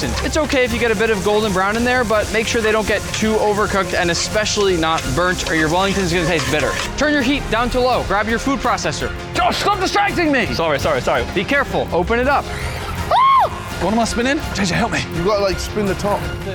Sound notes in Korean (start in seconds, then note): 13.0 비명